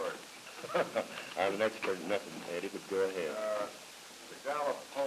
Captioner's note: chuckles